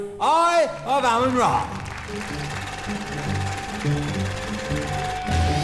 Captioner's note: audience clapping